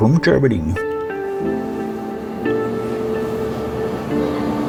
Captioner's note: steam locomotive and whisle